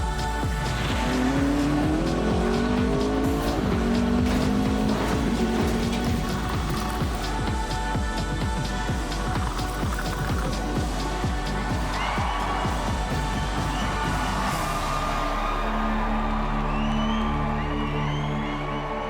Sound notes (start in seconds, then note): 0.0 car engine; 11.5 cheering